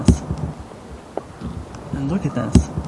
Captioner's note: distant scream